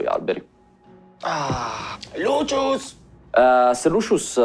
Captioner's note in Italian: Sospiro di sollievo